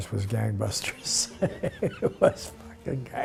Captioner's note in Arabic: يضحك